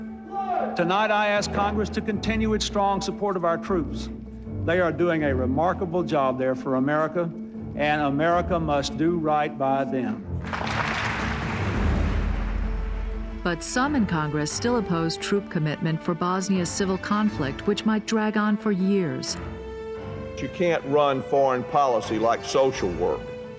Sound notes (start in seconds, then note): 10.4 applause